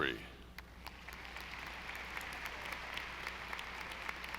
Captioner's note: audience applauding